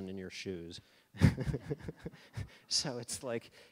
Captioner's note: all laughing